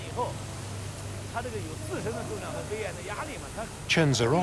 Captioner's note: man speaking Tibetan